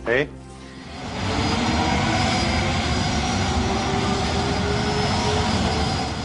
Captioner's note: jets roaring